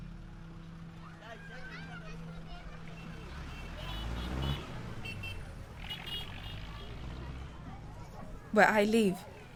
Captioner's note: children playing and traffic